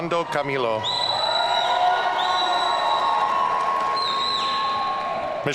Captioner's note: audience cheering